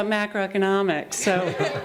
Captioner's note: laughter